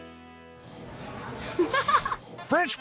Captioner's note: giggling